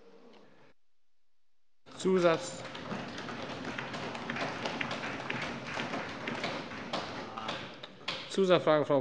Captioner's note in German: Allgemeiner Beifall